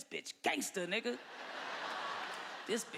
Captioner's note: laughter